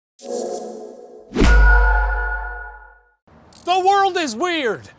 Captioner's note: ice age throwback whoosh bc we were FREEZING while we shot this